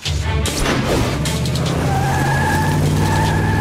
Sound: tires screeching

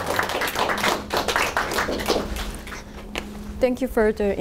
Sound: audience applauding

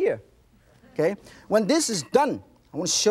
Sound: audience laughs

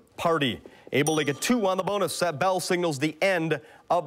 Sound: bell rings

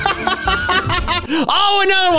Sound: laughing

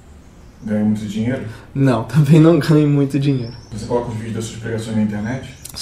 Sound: laughs

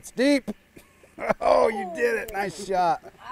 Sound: chuckling

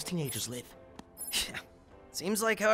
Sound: phone beeping

